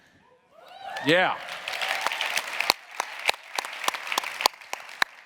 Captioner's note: audience applauding